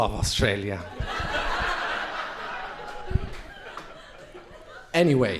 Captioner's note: crowd laughing